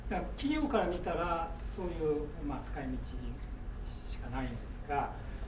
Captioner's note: speaking in foreign language